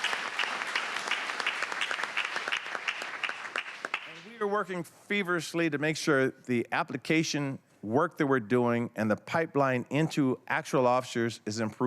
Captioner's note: applause